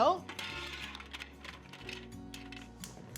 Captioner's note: mussels clattering